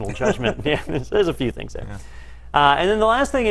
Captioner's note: laugh